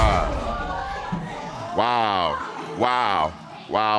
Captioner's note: audience exclaims